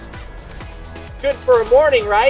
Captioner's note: he imitates sprinkler whirring